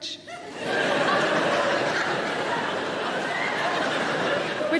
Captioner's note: audience laughing